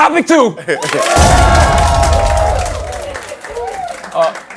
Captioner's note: cheers and applause